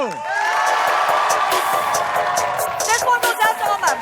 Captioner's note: crowd whooping and applauding